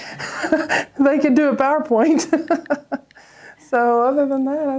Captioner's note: laughs